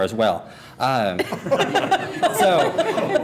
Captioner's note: laughter